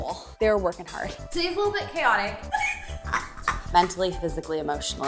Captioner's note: laughing